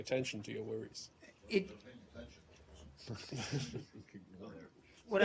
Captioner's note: laughter